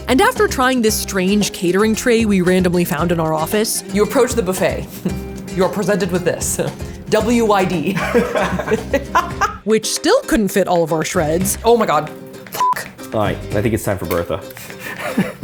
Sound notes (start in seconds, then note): 7.9 both laughing; 12.6 beeping